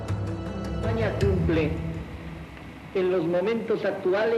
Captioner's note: speaking Spanish